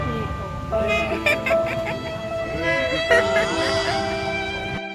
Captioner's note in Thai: หัวเราะ